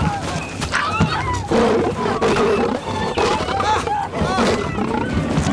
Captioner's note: Roaring